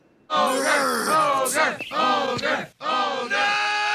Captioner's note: crowd